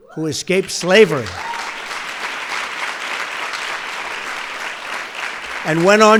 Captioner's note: applause